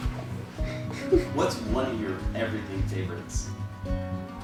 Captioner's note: chuckles